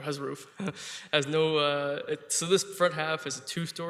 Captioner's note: chuckling